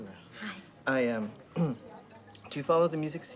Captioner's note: clears throat